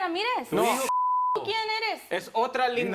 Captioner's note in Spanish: Bip